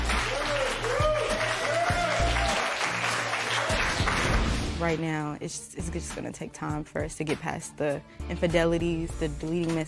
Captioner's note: cheers and applause